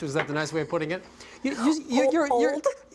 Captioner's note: stammering